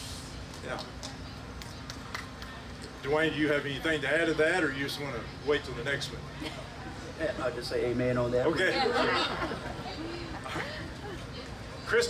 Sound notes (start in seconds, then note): 8.6 all laughing